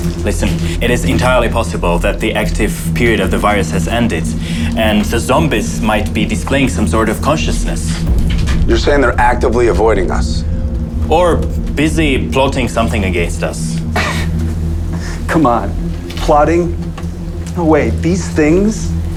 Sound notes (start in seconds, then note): 15.3 scoffing